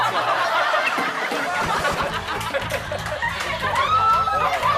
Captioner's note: cracking up